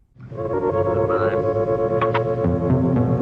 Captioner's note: phone hanging up